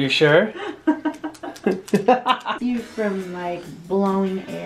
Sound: laughs

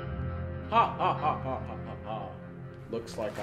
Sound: laughs menacingly

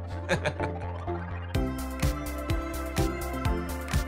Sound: they laugh

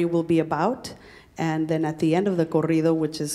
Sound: speaking in Spanish

